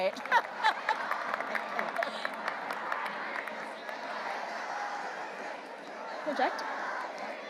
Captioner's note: laughs; audience applauding